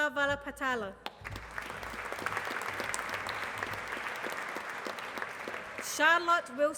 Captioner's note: applause